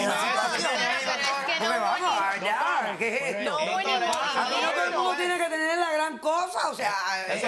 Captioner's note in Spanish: Hablan al unísono